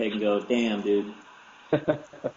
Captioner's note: laugh